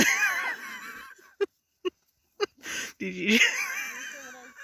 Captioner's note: laughter